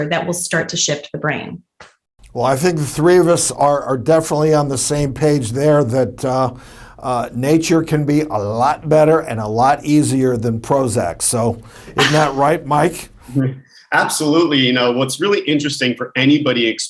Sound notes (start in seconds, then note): 11.9 laughs